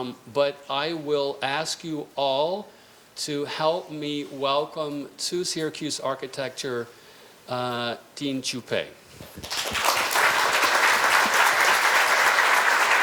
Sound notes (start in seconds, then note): 9.3 applause